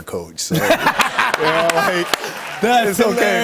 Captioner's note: laughter